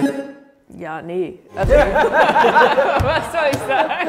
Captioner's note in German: Gelächter